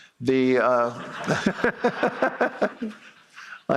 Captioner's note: laughter